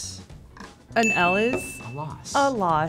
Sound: bell dings

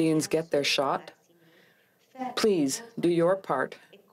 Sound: speaking french

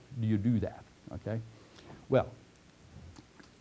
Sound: pause

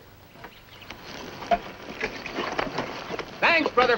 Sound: birds chirping

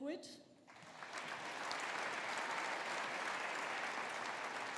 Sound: audience applauding

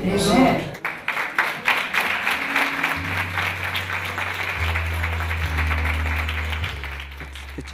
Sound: applause

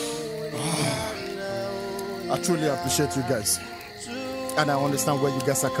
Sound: grunting

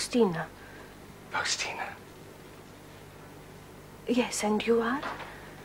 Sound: whispers

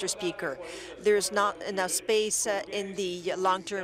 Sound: speaking French

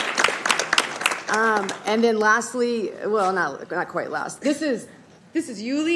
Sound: applause

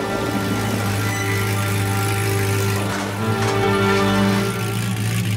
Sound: muffler rumbling

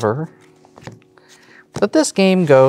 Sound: cards slapping on table

